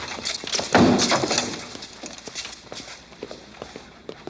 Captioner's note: head thuds